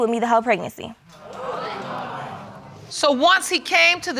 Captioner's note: audience exclaims